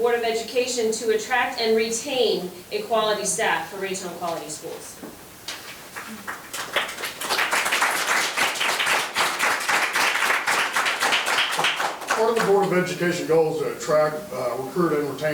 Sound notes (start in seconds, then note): 5.9 members applauding